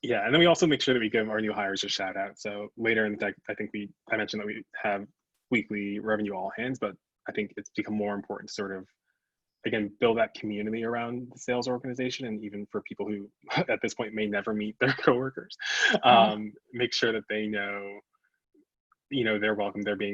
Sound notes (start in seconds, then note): 15.4 chuckles